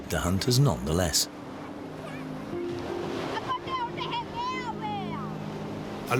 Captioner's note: sea waves. children shouting